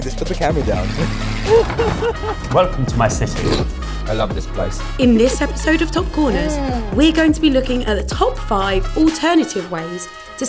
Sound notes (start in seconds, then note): 0.6 laughs; 3.4 slurps